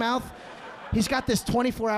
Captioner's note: audience laughing